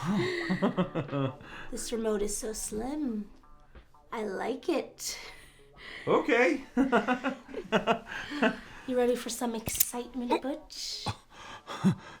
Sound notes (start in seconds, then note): 0.1 Butch chuckles; 7.0 chuckles